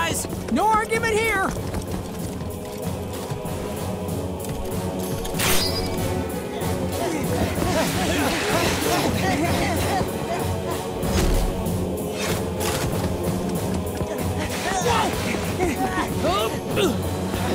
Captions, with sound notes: No argument here. [panting] [grunting]